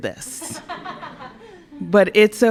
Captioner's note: laughter